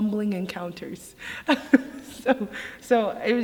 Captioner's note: laughs